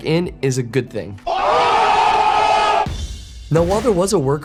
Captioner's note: group yelling